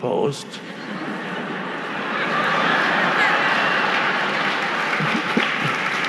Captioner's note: audience laughing and clapping